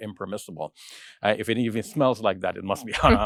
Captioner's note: chuckles